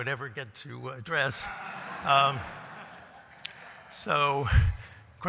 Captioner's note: laughter